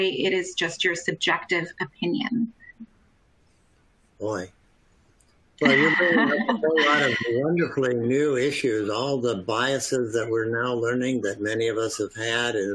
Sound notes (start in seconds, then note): 5.6 laughter